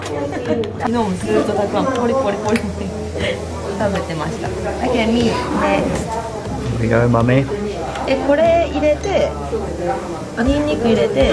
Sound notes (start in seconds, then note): 2.5 laughs